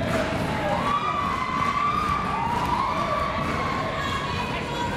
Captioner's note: crowd cheers